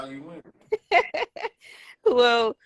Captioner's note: laughter